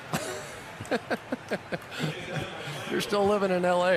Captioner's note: chuckling